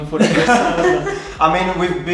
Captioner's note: laughing